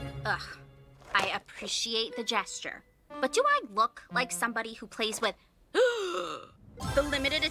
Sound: gasp!

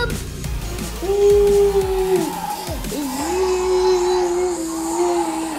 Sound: bubbles excitedly

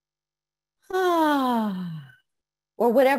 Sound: sighing

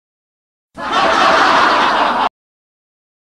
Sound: laughter

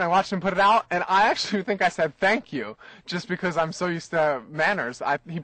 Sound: laughs

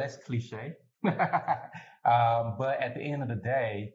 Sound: laughter

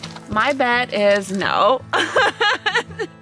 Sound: laughing

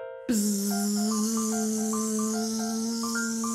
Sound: buzzing

